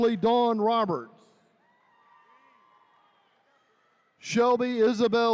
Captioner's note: attendees cheering